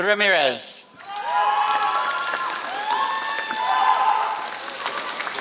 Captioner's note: applause